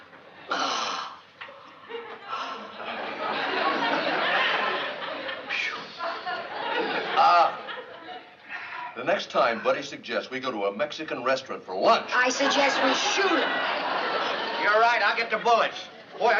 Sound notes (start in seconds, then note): 0.5 exhales loudly; 7.0 groans